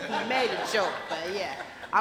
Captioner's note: laughter